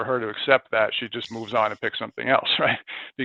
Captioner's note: laughs